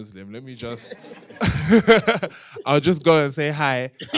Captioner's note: laughter